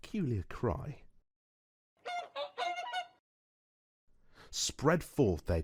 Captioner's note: swan cry sfx